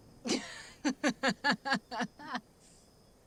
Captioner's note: Clive laughing scornfully